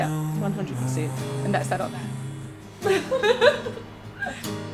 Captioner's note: laughs